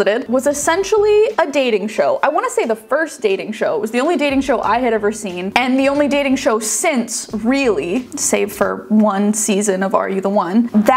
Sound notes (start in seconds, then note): none